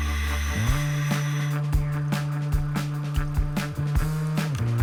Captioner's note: breathing through mask